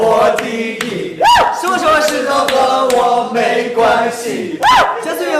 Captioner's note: cheering area